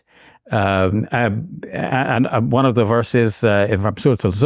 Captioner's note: speaks foreign language